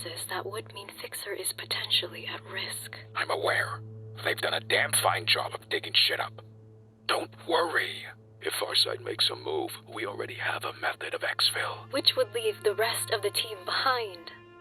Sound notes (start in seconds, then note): none